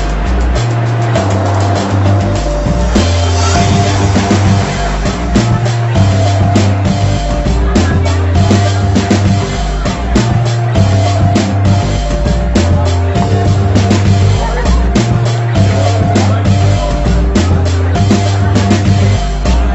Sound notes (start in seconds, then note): 2.1 crowd chattering; 2.1 mellow rock music